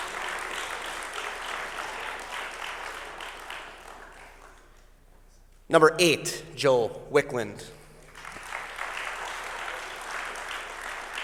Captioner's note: applause; applause